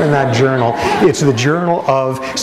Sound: laughter

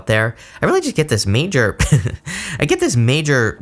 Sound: laughs

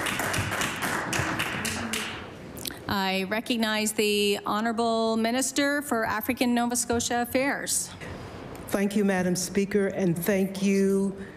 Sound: applause

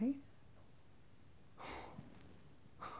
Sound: sigh

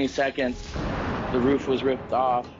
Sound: crash sound

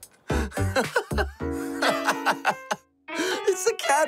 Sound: laughs

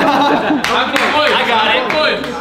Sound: clapping

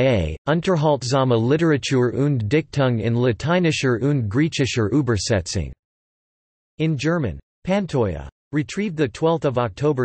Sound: in German

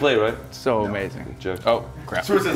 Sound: laugh

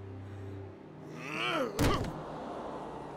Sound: grunting

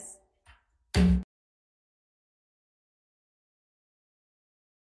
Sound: gavel thuds

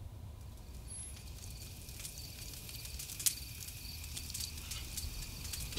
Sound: fire crackling

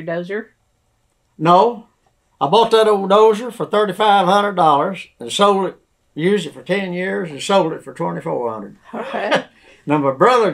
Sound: laughs

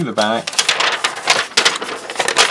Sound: paper rustling

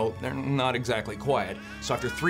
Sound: baby wailing

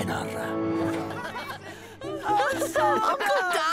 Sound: laughter

